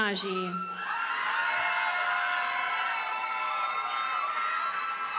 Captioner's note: audience cheers and applauds